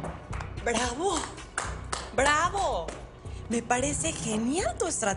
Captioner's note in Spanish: Aplausos